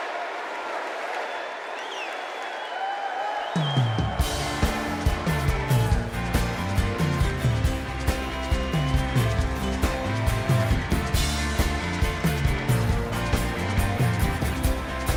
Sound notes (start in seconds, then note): 0.0 cheers and applause; 4.0 crowd chanting